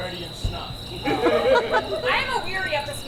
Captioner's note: audience laughs